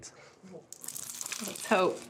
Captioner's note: crunching sound